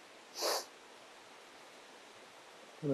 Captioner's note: Jim sniffs